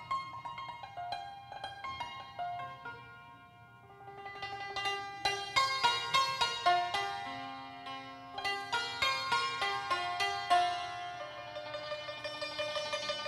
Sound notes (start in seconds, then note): none